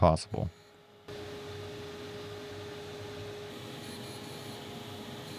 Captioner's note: machine whirring